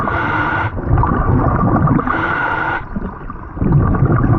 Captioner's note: heavy breathing